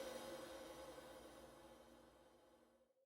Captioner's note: none